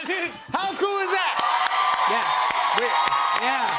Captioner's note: cheers and applause